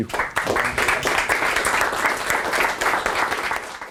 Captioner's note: applause